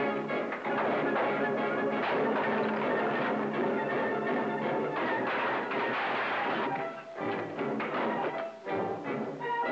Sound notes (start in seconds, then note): 4.9 objects clattering; 7.1 tense music